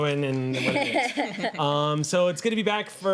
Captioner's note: laughing